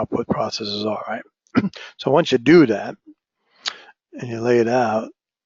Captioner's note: cough